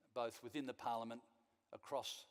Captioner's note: none